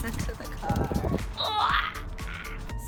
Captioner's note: groaning